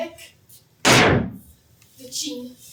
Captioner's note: sticks pound